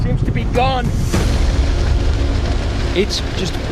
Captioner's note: raging flames